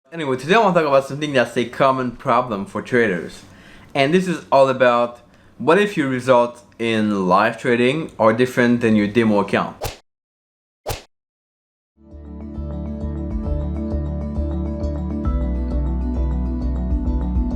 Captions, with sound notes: - Anyway, today I wanna talk about something that's a common problem for traders and this is all about what if your results in live trading are different than your demo account. (whipping sounds) (light music)